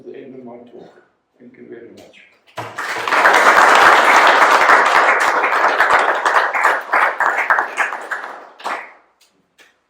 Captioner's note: applause